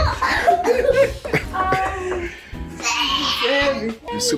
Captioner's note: laughing